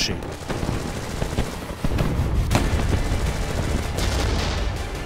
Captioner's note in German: Schüsse